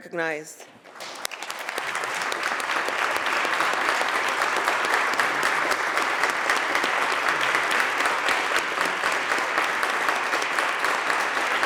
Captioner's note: applause